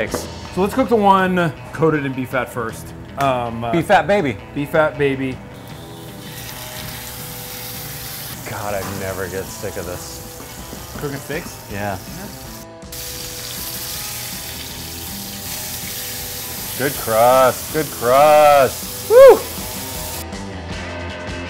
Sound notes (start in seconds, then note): 6.1 steak sizzling; 12.8 steak sizzling; 19.0 cheers